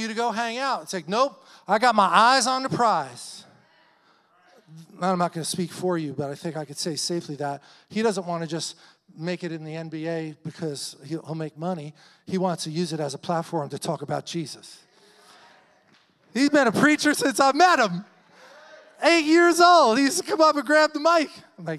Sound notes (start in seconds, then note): 15.3 audience clamors